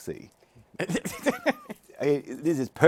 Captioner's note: laughs